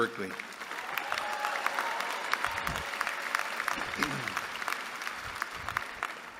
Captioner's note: applause